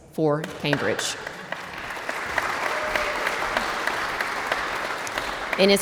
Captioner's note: audience applauds